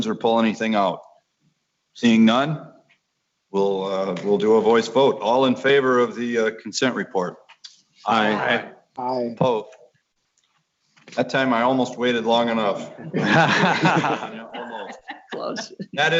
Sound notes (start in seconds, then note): 8.0 multiple voices; 13.0 laughter